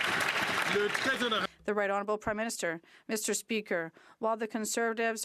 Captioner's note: some Applause